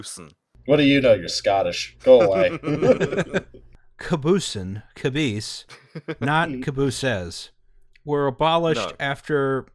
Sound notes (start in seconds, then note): 2.2 laughter